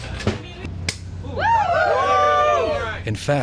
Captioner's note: pop, cheers; voiceover